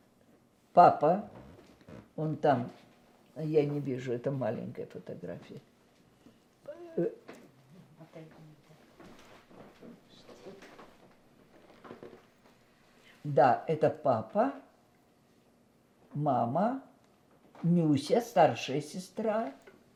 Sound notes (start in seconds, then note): 6.0 pause 7 seconds